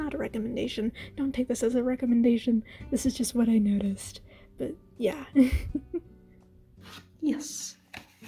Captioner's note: chuckle